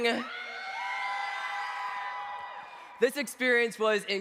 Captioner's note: cheers